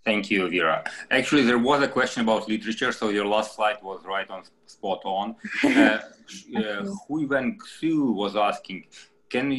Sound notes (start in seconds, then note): 5.4 laughing